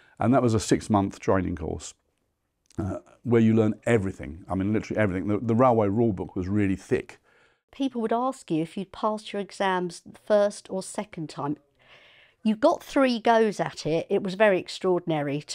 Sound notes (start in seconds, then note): none